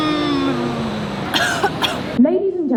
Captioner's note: coughs